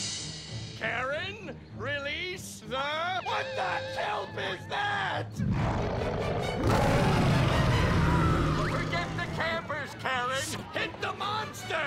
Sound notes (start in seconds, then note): 5.4 growling; 5.4 roaring